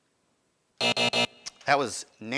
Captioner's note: buzzer buzzing